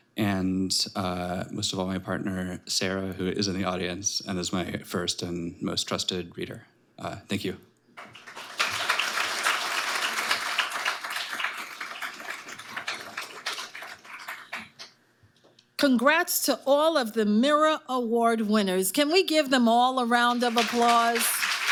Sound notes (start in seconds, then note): 8.0 audience applauding